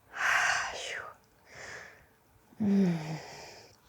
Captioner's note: breathes deeply